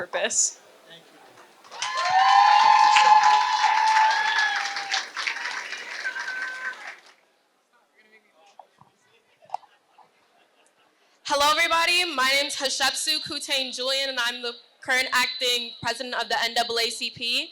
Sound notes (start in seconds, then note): 4.8 applause